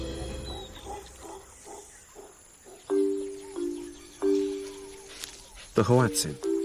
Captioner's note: barking